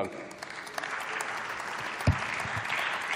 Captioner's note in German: Beifall